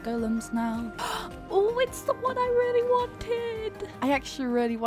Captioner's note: gasps